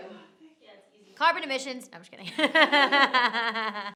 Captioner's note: laughs